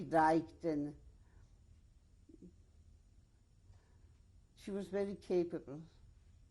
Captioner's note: pauses for 3 seconds